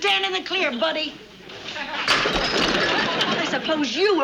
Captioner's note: porcelain shattering